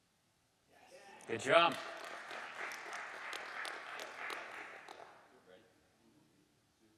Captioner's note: audience applauding